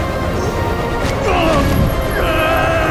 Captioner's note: grunting